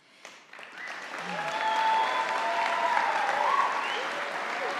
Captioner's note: audience applauding